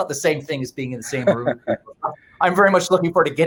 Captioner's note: laughing